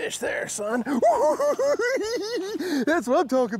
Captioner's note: giggling